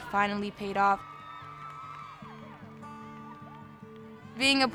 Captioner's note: gymnasts cheer